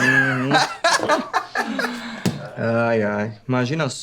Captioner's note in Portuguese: risos